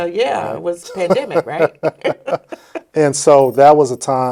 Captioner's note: both laughing